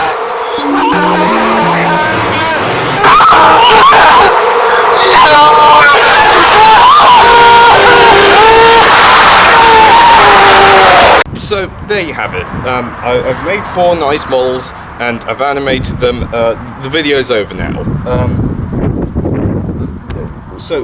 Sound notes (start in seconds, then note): 6.5 loud warping